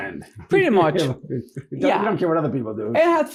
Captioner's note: laughing